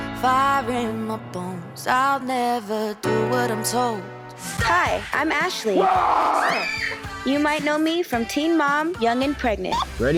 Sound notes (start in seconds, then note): 5.7 screaming; 5.8 roaring